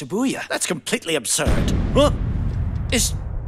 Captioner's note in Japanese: 爆発音